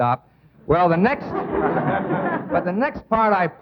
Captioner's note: audience laughing